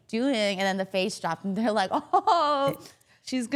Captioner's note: chuckles